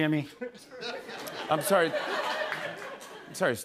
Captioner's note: laughter